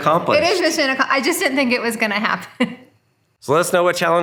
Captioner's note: laughing